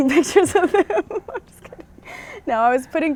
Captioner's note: laughs